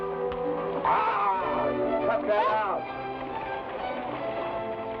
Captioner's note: groans